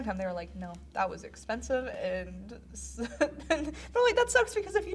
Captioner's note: chuckles